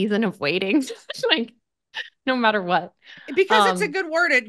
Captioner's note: laughs